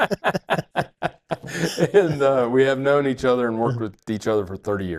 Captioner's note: doctors chuckle